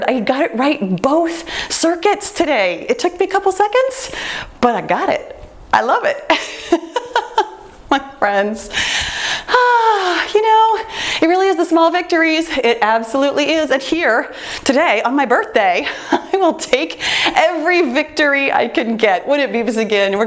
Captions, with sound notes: I got it right both circuits today. It took me a couple seconds, but I got it. I love it. (laughs) My friends. (sighs) You know, it really is the small victories, it absolutely is at here today on my birthday. (laughs) I will take every victory I can get. When it beeps again,